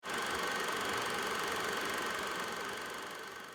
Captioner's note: film reel rolling